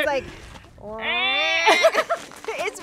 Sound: both mimic a lynx cry; both laugh

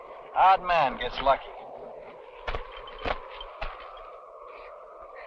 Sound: hands thudding

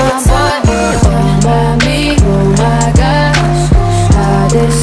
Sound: skrrt, skrrt

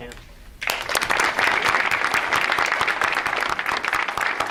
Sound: audience applauds

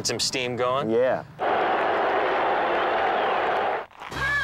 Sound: cheering

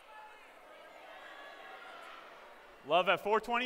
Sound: shouting

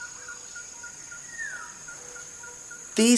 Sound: birds chirrup

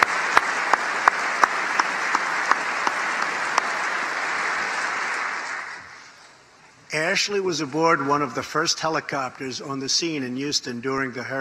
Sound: applause

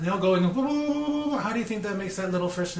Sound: jeers

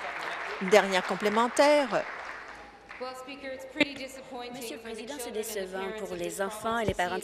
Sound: applause

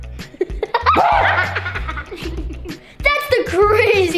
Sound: laughing

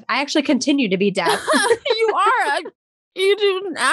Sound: laughs

